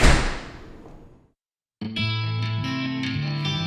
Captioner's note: door slamming; upbeat instrumental music